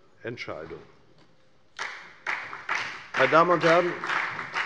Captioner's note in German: Beifall bei der FDP und bei Abgeordneten der CDU